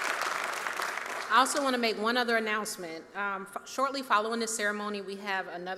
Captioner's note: applause